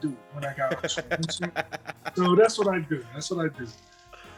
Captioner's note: laugh